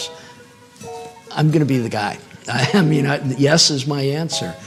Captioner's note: chuckles